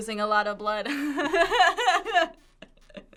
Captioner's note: laughing